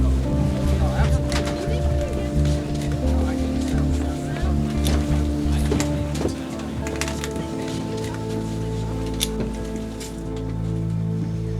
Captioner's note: chatter